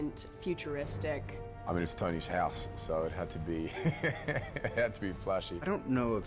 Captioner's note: laughs